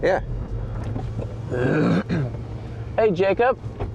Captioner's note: clears throat